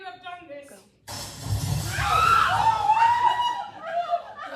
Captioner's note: loud crash